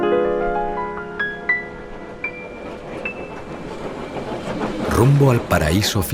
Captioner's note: train rattling